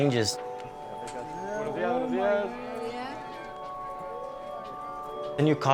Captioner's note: speaks spanish